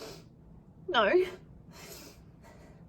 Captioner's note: sniffs